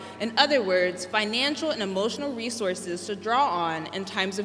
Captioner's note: none